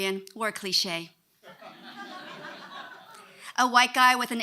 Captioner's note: audience laughing